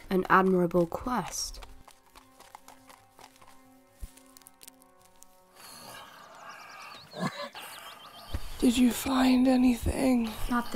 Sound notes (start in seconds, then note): 5.5 pained noises